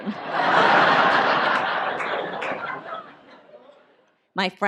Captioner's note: audience laughs